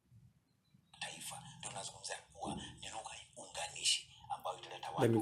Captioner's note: TV sound